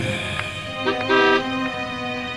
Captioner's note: car horn blares